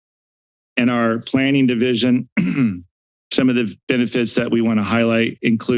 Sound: clears throat

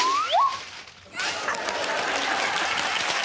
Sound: swanee whistle warbling; plastic crackling; audience laughing; audience applauding

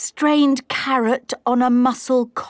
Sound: none

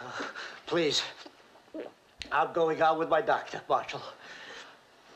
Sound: gulps

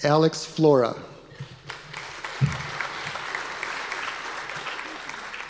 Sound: audience applause

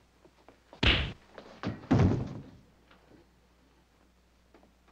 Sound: fist thudding

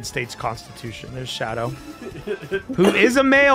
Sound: erarg laughs

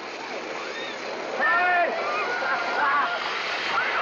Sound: girls squeeling

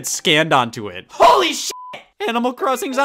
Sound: beep

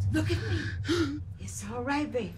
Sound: Keith gasping for air; Mrs Webb shushes

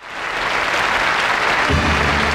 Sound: audience applauding

